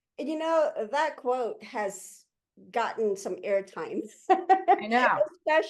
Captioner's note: laughs